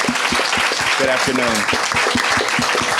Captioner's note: audience clapping